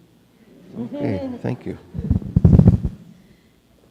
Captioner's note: audience laughing